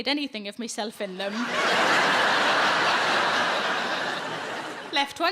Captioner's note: audience laughing